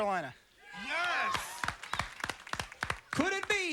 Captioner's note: applause